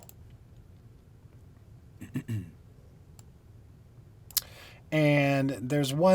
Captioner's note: coughing